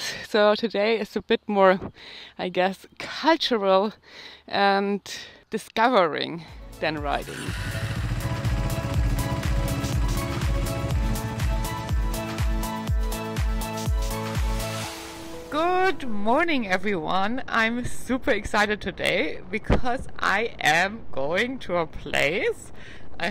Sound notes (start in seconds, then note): 6.6 upbeat music; 6.9 motorbike starting